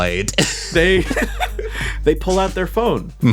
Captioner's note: laugh